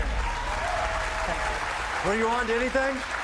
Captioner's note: cheers and applause